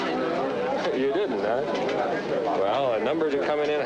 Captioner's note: indistinct background chatter